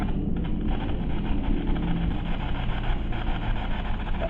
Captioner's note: static buzzing